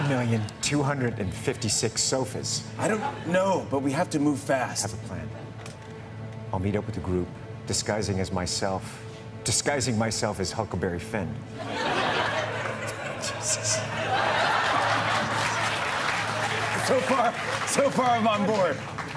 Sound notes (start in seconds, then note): 14.1 laughter